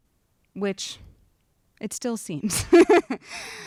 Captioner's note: chuckles